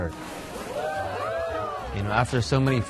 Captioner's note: people cheering